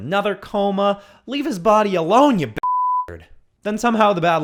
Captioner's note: beep